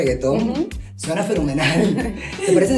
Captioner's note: laughing